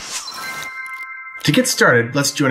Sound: bell ringing

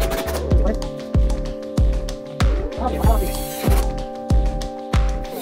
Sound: bright music; sped up drilling and talking

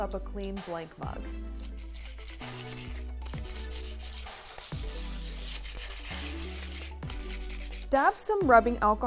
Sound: scraping mug

